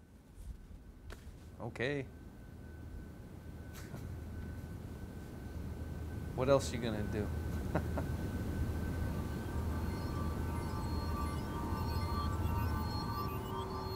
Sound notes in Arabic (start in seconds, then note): 7.6 يضحك; 9.8 موسيقى جو من عالم آخر